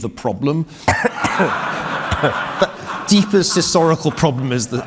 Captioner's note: audience laughing